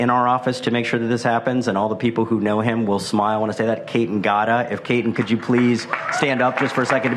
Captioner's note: applause